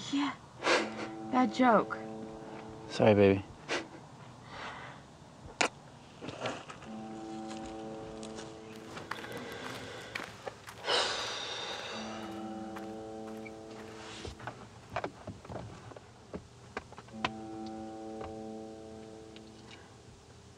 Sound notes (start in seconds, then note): 3.6 chuckles; 6.8 soft somber piano music; 10.8 Amanda exhales deeply